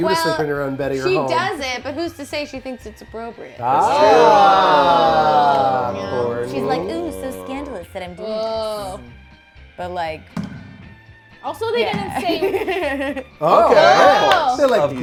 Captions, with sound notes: - Well, she does it. But who's to say if she thinks its appropriate? (groans of approval) - She's like, "so scandalous that I'm doing this." (overlapping chatter)